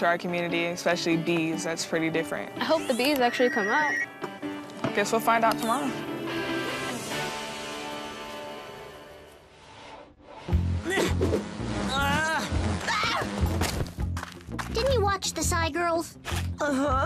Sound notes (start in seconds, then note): 11.3 buzzing; 13.4 screams